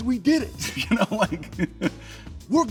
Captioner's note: laughs